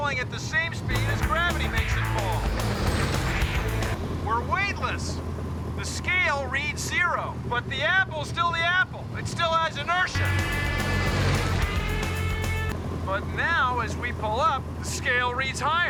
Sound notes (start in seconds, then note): none